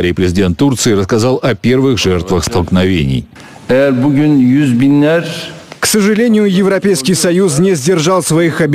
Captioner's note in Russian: речь по-турецки с переводом на русский